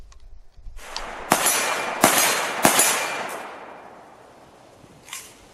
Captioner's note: gunshots